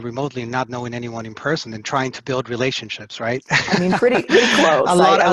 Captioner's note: laughs